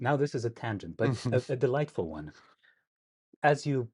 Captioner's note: laughs